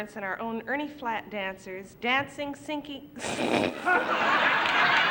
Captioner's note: laughs